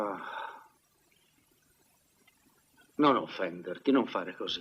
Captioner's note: none